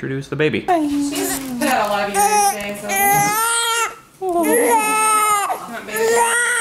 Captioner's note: cries